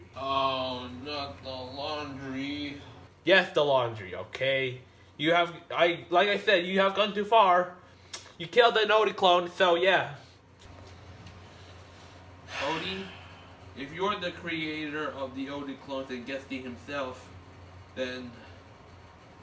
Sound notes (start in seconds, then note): 12.4 sighs